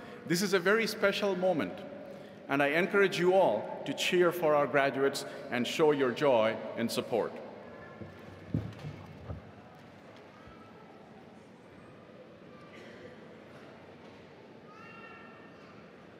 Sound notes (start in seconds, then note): 11.1 audience children chattering